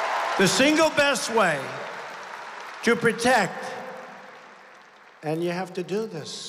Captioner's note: applause